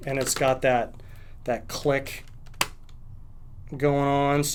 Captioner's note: stand clicking